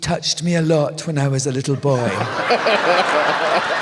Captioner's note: laughter